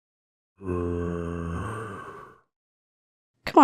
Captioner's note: zombie groans with curiosity